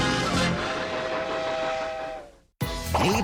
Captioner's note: choo choo